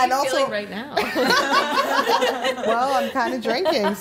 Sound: laughing

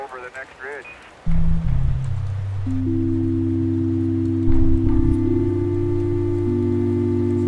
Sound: rain pattering; gentle music

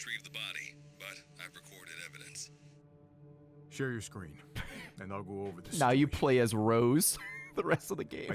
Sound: laughs

